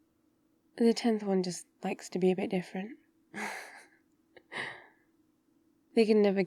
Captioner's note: laughs